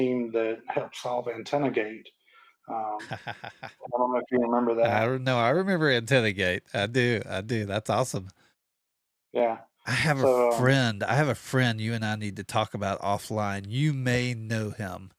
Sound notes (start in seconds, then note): 2.8 laughs